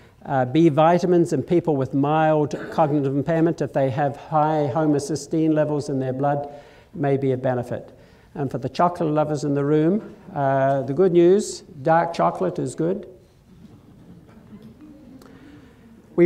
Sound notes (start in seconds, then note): 13.5 mild laughter